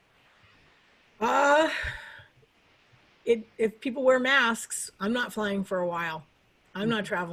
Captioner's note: sighs